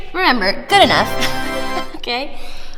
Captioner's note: laughs